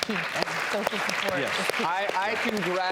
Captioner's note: applause